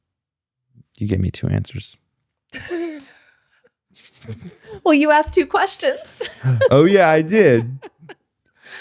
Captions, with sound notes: You gave me two answers. (laughing) Well, you asked two questions. Oh yeah, I did.